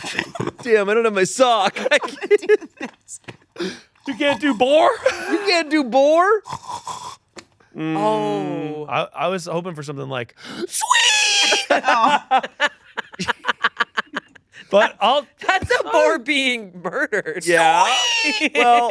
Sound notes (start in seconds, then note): 0.0 laughs; 4.0 snorting; 6.4 snorting; 10.8 squeals; 11.2 laughing; 17.5 squealing